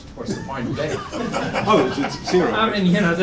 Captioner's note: laughter